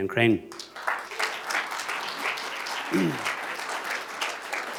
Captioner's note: applause